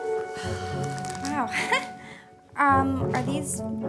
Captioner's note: chuckles